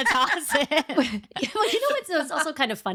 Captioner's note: laughing